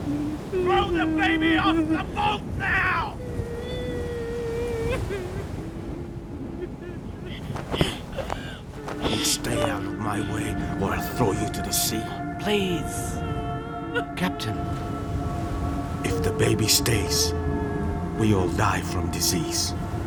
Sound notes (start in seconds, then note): 5.2 weeping; 10.2 ominous music